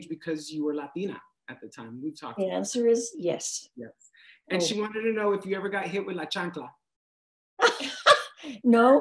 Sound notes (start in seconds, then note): 6.1 speaks foreign language; 7.6 laughs